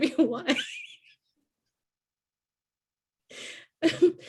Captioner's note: laughing